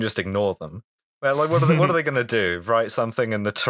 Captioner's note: laughter